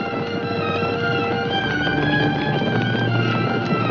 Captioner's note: hooves thundering